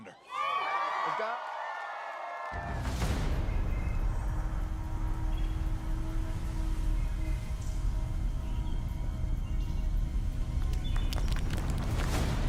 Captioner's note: applause